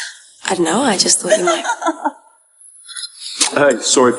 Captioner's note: woman giggling